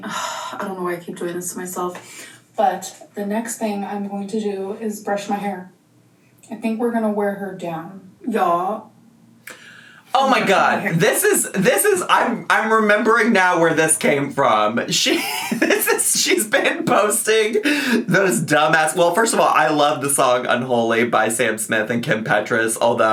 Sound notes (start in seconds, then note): 15.0 laughs